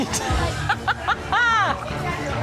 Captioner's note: laughter